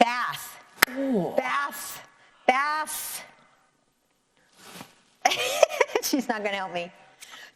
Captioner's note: chuckles